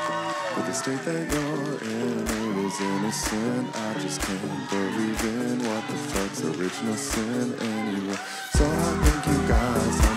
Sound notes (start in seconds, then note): 1.0 crowd claps to the beat